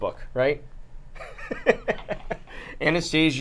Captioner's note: laughs